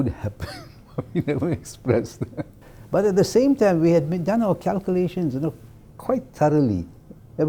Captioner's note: laugh